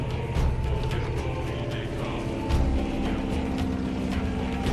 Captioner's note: airplane engine buzzing